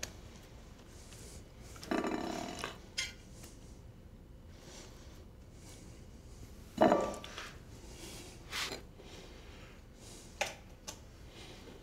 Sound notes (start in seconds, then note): none